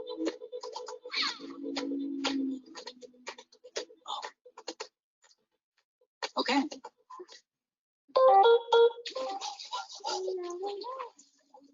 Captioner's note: whimpers softly